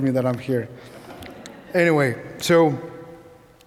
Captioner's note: audience laughing